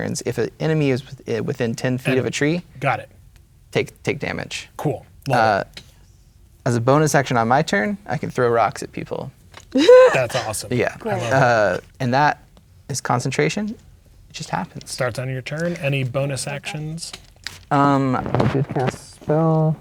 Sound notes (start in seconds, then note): 9.7 laughs